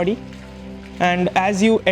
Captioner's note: water pouring in the fountain